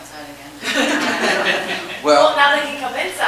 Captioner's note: audience chuckles